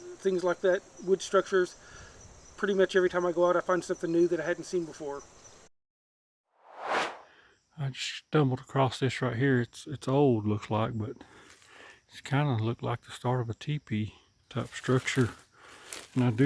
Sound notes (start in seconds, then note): 6.6 air swooshes